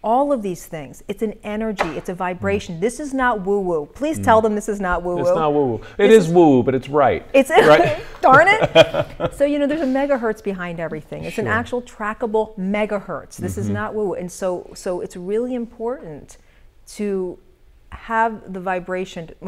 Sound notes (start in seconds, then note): 9.1 laughter